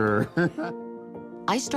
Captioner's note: chuckles